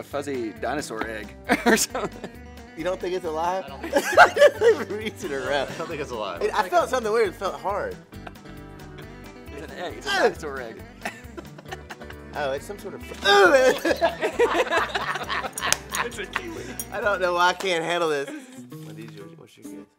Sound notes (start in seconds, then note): 3.8 laughs; 13.3 laughter